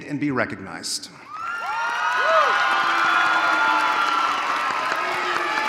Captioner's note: audience cheering